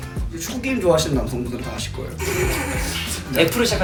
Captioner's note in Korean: 웃음